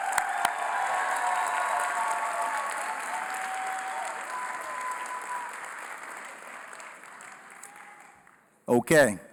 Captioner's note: cheering & Applause